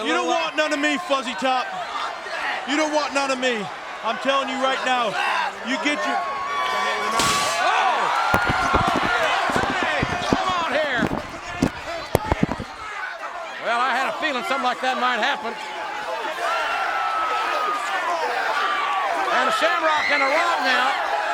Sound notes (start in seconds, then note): 7.3 water spitting; 8.3 face thwacking